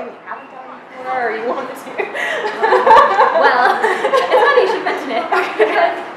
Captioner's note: laughing